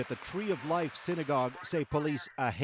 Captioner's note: applause